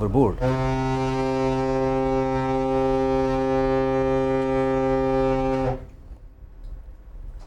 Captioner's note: horn